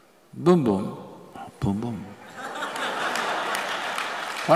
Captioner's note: laughter; 笑聲